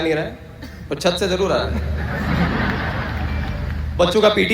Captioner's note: audience Laughter